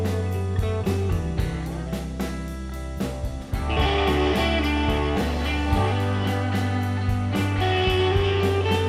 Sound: slurps

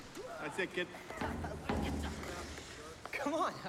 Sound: shouting

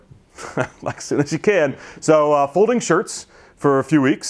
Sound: laughs

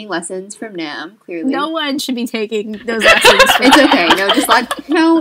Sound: laughter

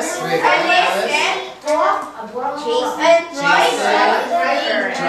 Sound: chattering

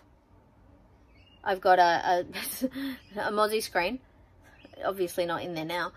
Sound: scoffs

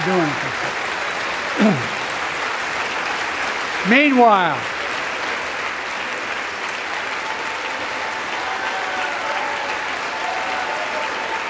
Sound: applause

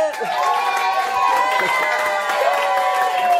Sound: cheering

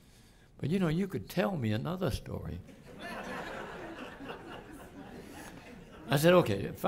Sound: laughter

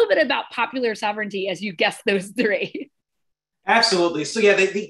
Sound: laughter

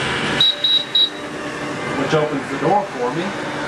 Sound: whirring

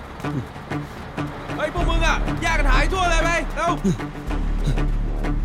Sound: sighs; Malay Language

